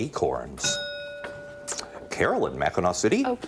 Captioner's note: bell rings